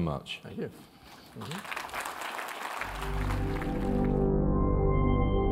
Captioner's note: applause